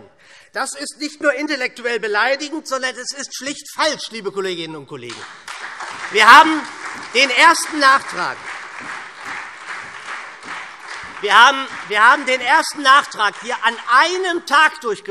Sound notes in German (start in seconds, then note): 5.0 Beifall SPD und Freie Demokraten